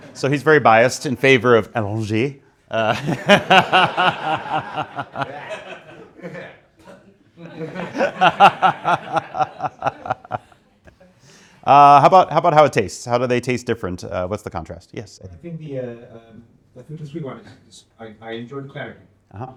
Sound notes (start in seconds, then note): 2.7 laughing